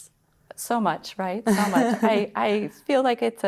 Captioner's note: laughter